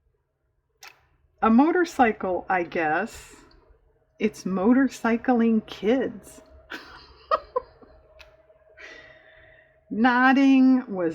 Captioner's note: laughs